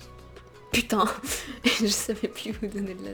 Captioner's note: laugh